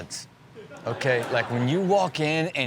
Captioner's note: audience laughs